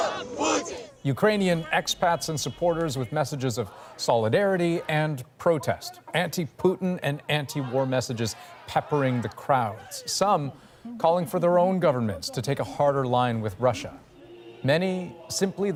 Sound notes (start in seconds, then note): 0.0 chanting